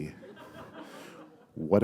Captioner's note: laughter